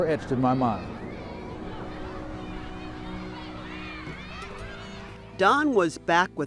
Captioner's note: children playfully squealing